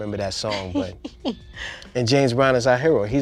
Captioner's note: laughing